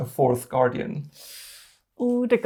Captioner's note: sharply inhales